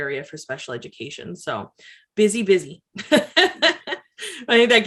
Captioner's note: laughs